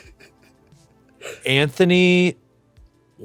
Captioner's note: giggles